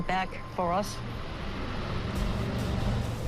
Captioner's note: engine rumbles